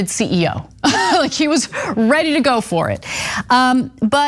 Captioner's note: laugh